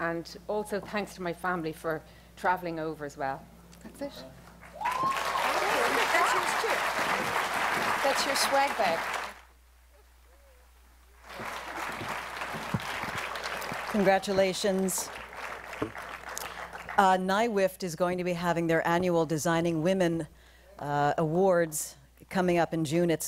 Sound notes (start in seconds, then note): 4.6 applause